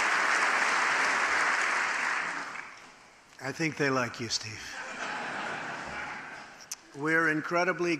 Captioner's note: laughter